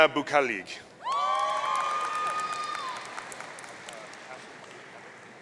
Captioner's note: audience cheering